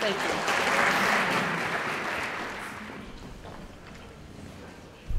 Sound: audience applauding

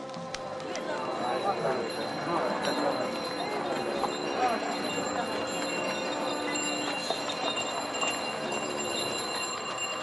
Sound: sound of horns and cymbals; sound of crowd, bells, horns and cymbals; sound of bells, horns and cymbals

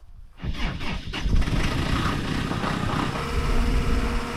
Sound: engine rumbling

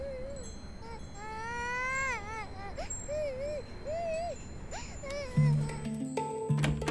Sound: crying

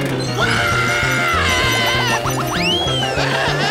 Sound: screaming

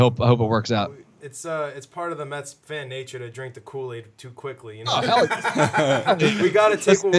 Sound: laughter

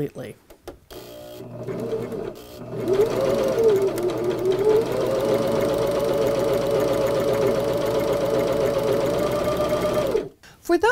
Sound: sewing Machine Sounds

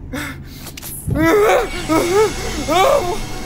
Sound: Frank screaming

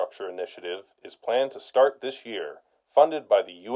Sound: news report in background

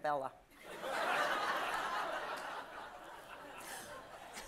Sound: audience laughs

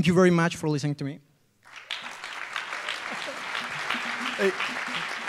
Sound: applause

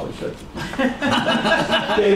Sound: laughter

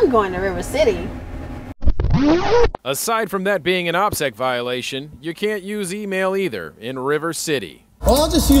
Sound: record scratch

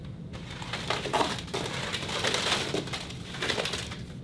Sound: fluttering and crumbling

